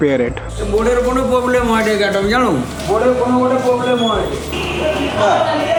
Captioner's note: speaking foreign language; buzzer beeping